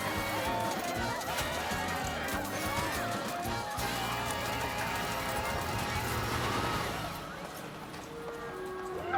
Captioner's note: cheering